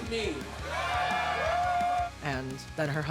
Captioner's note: crowd cheering